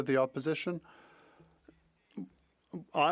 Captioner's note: speaking French